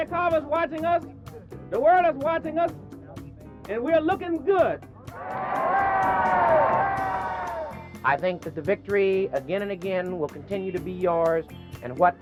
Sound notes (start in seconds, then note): 5.1 crowd cheering